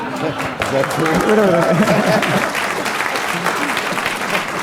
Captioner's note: laughter; applause